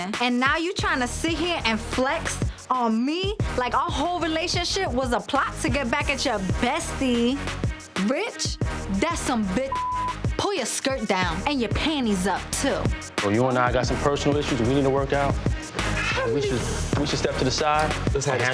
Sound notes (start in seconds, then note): 9.7 beep